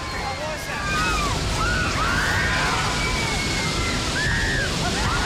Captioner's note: screaming